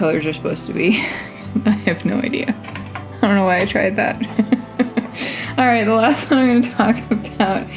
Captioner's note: laugh